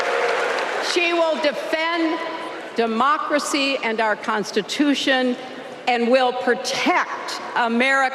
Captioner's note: applause